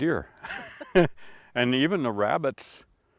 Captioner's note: chuckle